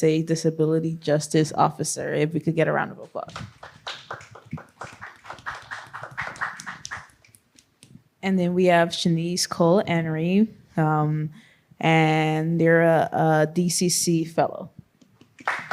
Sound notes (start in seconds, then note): 3.3 applause